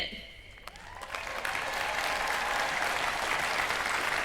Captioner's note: cheering